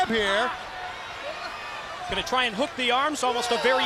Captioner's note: crowd cheering